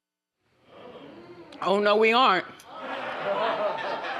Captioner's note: audience murmurs; audience laughs